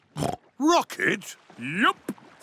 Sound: snorts

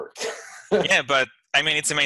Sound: laughs

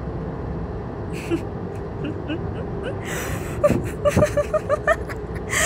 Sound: Revy snickers, then laughs

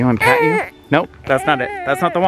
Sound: baby fussing

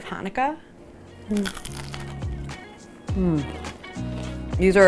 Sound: latke crunches

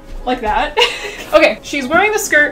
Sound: laughs

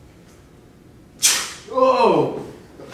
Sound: sneezes

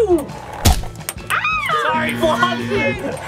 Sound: squealing; eyeball whooshing; screaming

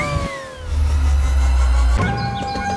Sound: techno windy sound

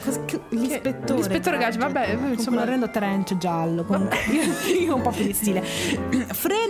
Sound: laughing

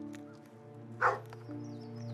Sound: dogs barking

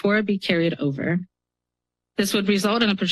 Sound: pause

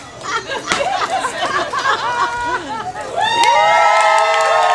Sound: laughing and cheering

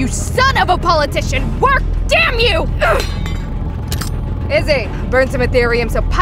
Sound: pin drops

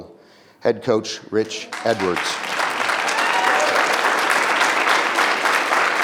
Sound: audience applause

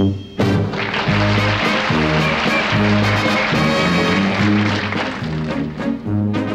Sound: audience applauding

